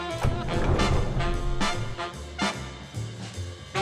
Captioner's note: sliding door rattles; lively music continues